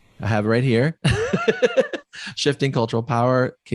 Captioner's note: laughs